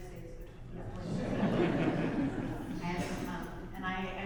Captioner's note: audience laughs